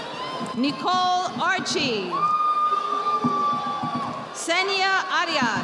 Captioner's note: audience applauding